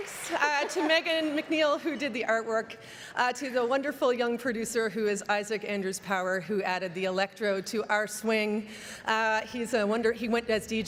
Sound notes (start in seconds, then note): 0.0 cheering and Applause